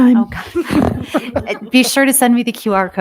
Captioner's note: members laughing